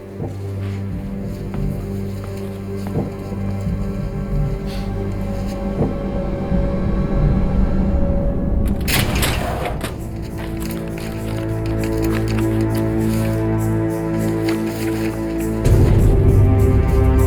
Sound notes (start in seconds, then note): 0.1 suspenseful music; 8.9 drawer clicking; 9.2 dramatic music